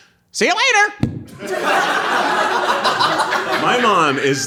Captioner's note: audience laughing